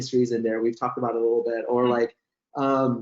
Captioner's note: chuckles